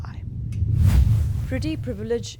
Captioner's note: percussive whoosh